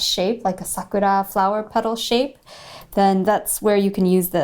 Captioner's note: speaking in Japanese language